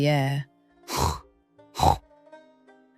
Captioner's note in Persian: صدای خروپف